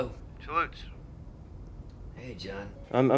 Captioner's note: on phone